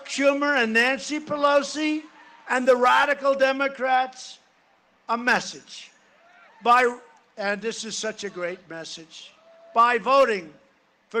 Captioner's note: cheering and applause